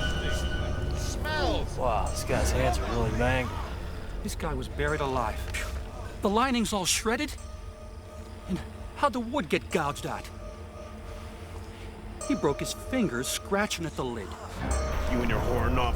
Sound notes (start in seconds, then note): 3.3 scoffs